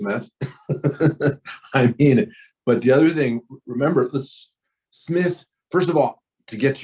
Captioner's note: laughs